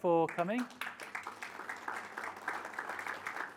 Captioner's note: applauding